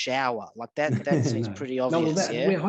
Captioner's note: laughs